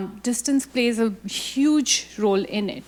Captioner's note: none